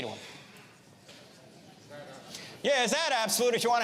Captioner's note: audience murmurs